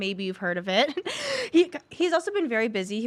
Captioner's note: laughs